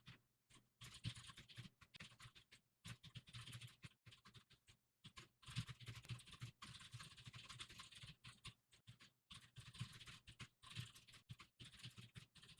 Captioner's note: typing sounds